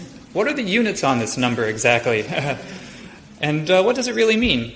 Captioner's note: audience laughs softly; laughs